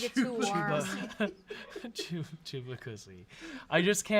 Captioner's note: off-camera chattering